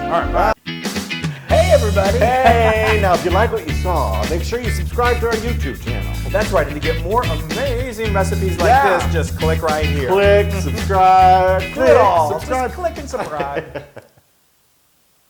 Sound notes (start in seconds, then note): 1.3 laugh; 13.5 laugh